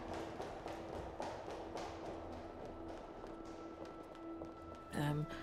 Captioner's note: hurried footsteps clacking